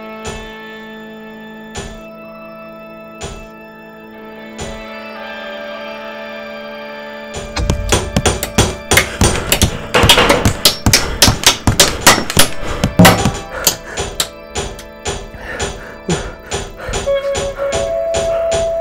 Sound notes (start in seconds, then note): 7.3 hammer clanks repeatedly and with increased intensity; 13.5 panting and clanking